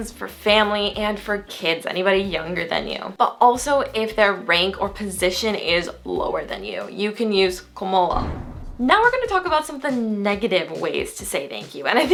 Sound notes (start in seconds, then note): 7.7 foreign language